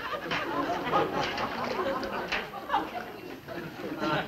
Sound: laughter

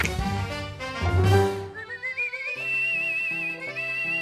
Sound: whistling

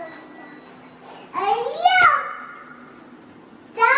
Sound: yells

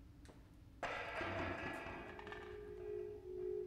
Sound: distant crash of pots and pans

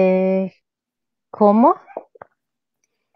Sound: speaks portuguese

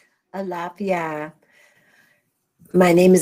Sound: speaks in foreign language

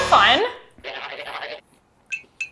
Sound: head warbling; hand tinkling

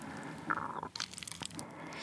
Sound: growling

